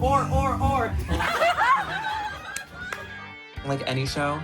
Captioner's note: loud laughter